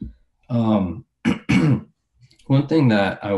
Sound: clears throat

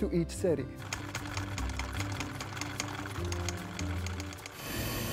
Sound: film reel clicking

